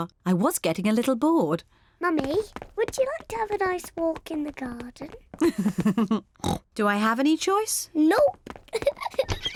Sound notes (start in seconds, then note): 5.4 chuckles and oinks; 8.7 giggles